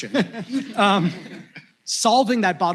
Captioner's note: laughter